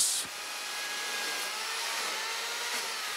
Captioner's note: whirring